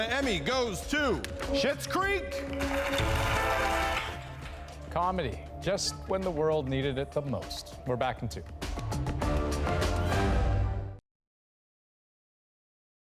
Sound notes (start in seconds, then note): 3.8 applause